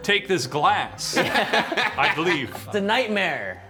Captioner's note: laughing